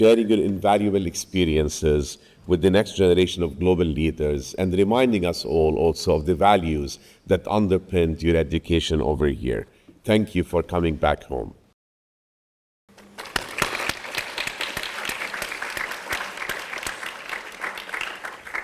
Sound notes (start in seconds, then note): 13.0 everyone applauding